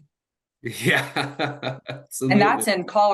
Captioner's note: chuckles